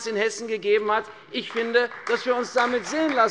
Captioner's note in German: Beifall bei der CDU und dem BÜNDNIS 90/DIE GRÜNEN